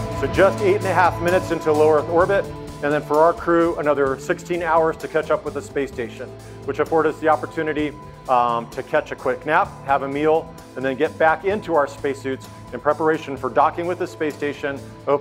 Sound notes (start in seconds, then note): none